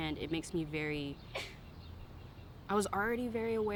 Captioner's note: bystander sneezing